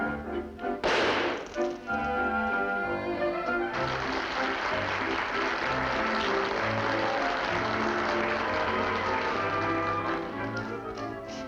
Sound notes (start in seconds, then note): 3.7 applause